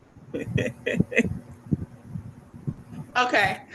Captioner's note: laughing